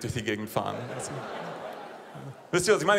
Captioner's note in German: Lachen